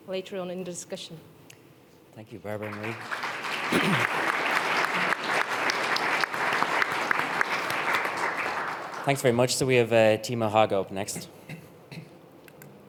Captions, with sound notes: later on in the discussion. - Thank you, Barbora and Marie. (audience applauding) Thanks very much. So we have Timo Hauge up next.